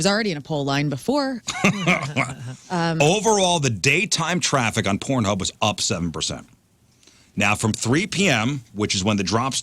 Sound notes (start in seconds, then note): 1.5 laughs